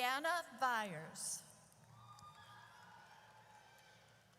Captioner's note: audience cheers